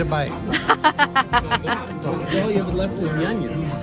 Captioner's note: laughs